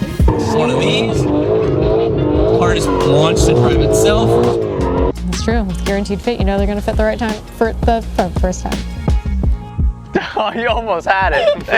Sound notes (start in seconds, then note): 0.0 engine revving; 11.3 laughing